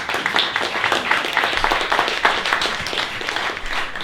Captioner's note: applause